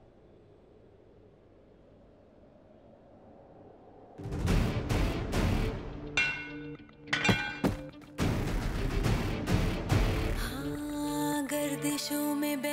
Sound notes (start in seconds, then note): 7.1 clanging